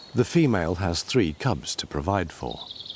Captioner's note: none